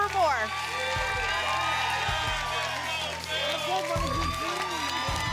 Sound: applause and cheering cont

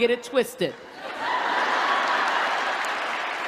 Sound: laughter

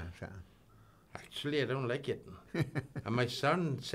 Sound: chuckling

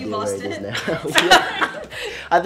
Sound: laughing

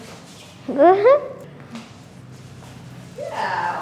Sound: laughs

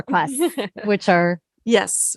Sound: laughs

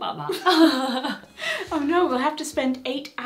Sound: both laugh

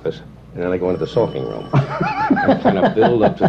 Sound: laughter

